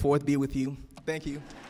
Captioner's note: cheers and applause